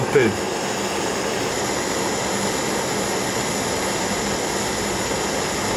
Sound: noise of gas burners continues

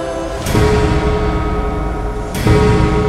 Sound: gong ringing

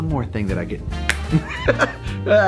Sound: Rocky snaps; laughs

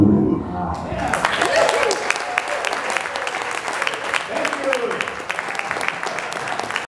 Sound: applause

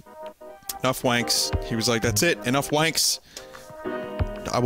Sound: lip smack

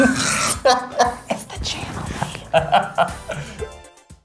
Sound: whispering

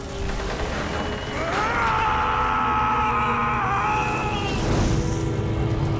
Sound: screaming

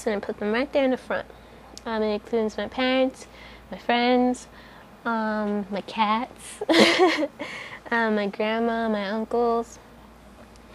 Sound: laughs

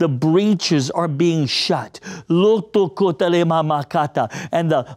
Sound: praying in Tongues

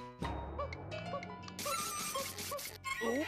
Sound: cuckooing

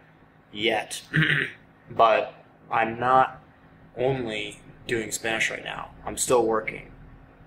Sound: clears throat

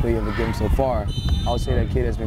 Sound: whistle blows

